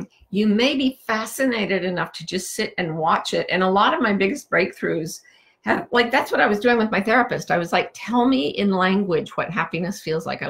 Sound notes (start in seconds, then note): none